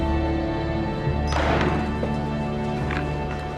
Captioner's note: <i> slams on table</i>